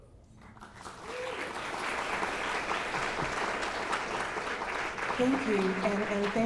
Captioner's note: clapping